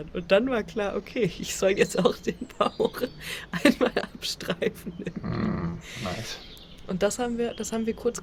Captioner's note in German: gelächter